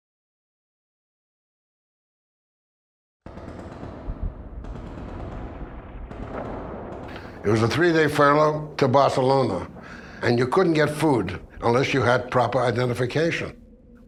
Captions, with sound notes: (distant machine gun firing) - It was a three day furlough to Barcelona and you couldn't get food unless you had proper identification.